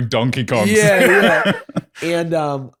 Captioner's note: laughs